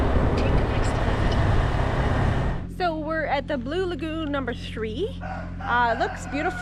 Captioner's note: rooster crowing